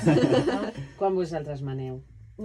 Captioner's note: laughing